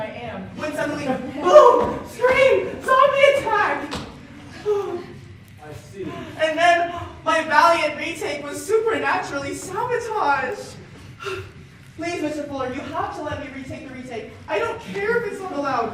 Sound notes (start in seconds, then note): 11.1 sharp exhale